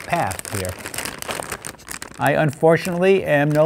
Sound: bag rattling

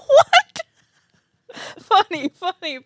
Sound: laughs

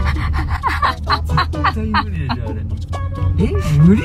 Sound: is laughing hard

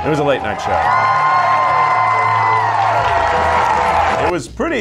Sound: cheering and applause

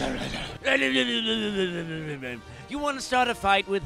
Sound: Joker imitating Batman's mumbling

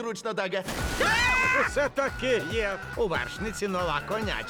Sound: screams

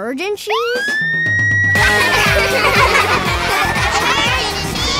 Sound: laughing

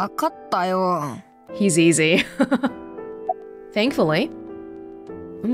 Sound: chuckles

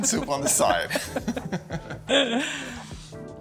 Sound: laughing; upbeat music

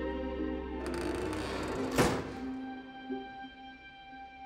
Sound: toys clanking; dumpster creaking

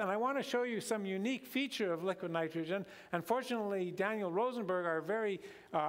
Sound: none

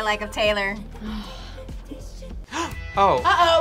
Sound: React sighs; gasps

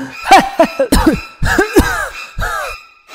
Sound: coughing Noises

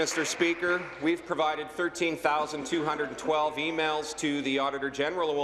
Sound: applause

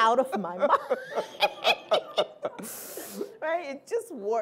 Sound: laughter

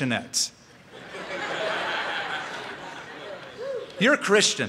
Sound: laughter

